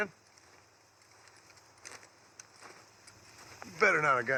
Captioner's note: total silence